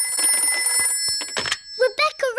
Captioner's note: phone rings